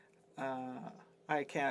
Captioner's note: speaking French